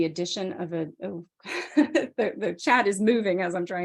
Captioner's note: chuckles